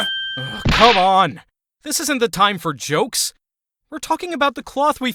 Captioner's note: groan